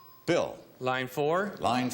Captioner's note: bell dinging